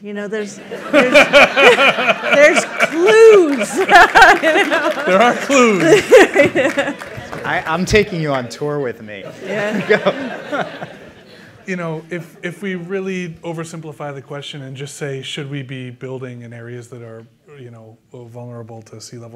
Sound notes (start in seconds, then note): 3.5 laughter